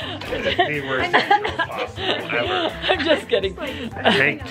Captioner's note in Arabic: حديث متحمس